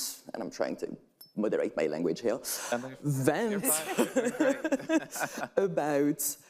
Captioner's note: laughs